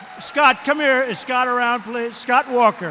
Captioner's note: applause